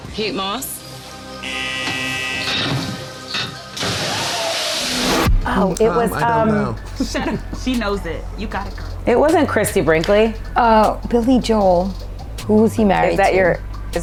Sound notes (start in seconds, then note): 1.4 buzzer buzzes; 4.2 water splashes